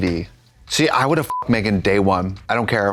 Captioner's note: beep